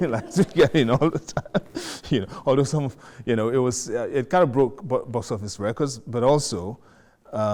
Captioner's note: laughing